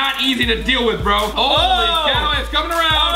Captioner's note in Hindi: चिल्लाना